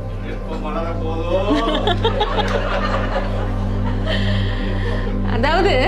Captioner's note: someone from the audience passes a joke and all are laughing